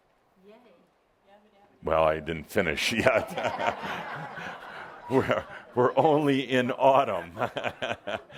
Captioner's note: laughter